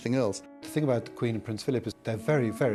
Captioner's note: voiceover